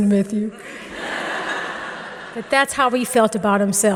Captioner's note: audience laughing